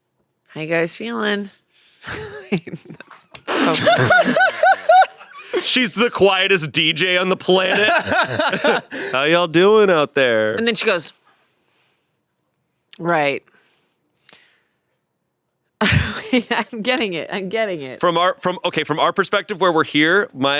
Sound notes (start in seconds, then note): 3.4 everyone laughs